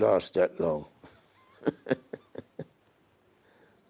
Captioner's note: laughs